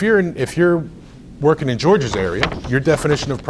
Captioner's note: rustles papers